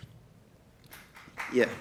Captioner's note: applause